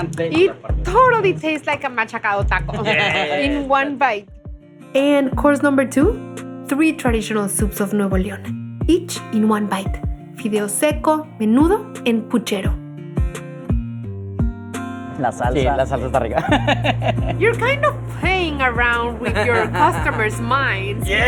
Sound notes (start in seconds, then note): 14.8 speaking Spanish